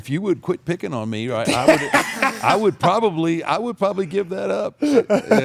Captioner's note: laugh